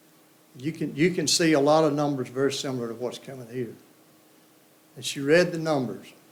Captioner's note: none